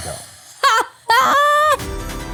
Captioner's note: laughing; upbeat music